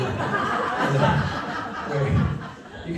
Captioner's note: laughter